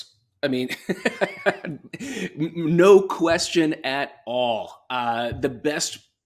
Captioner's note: laughs